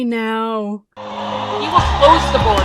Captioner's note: crowd cheering